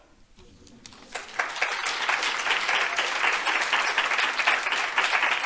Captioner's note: audience applauding